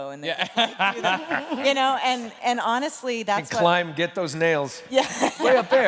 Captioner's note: laughter